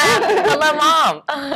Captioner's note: laughter